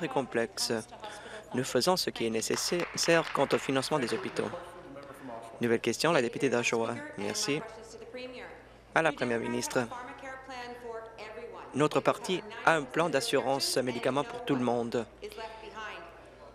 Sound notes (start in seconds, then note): 5.7 applause